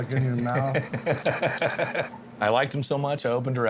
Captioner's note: laughing